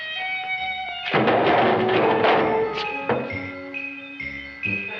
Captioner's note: Seymour thumping